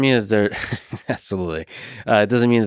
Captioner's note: laughs